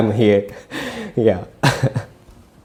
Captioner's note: laughs